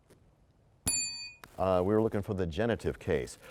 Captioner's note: bell rings, time expires